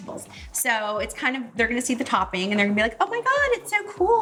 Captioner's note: none